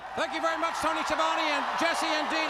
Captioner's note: crowd cheering